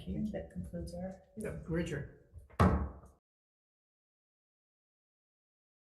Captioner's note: gavel hits